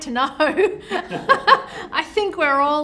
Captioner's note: light laughter